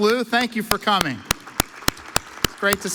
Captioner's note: audience applauds